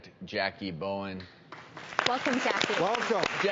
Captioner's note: audience applauds